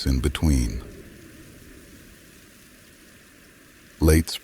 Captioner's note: wind whispers softly across the mountains